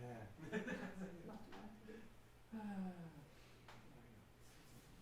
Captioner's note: laughing